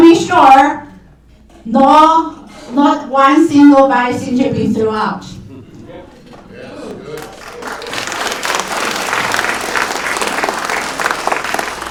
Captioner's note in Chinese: 掌声